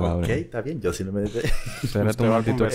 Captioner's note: laughs